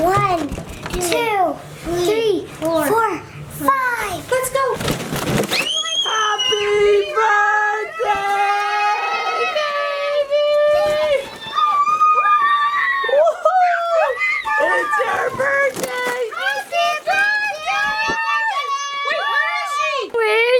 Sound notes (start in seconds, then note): 10.9 kids yelling